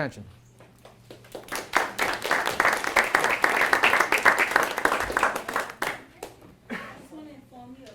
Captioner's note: applause